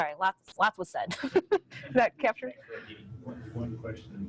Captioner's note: laughs